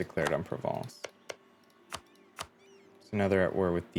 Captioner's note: typing